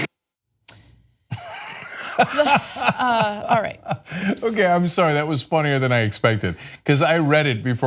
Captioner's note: laughter